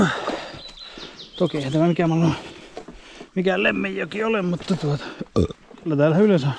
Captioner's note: burbs